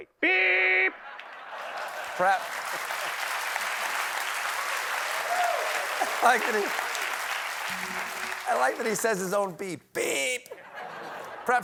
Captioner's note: applause